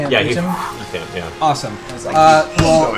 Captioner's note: whoosh